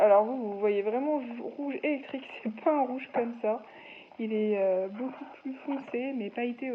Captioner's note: laughs